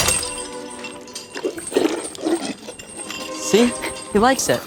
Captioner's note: zombie slurping